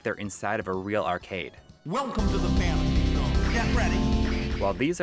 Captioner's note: Space Harrier Game Audio